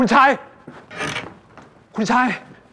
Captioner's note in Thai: เสียงเปิดประตู